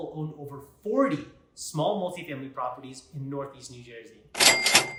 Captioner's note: cha-Ching!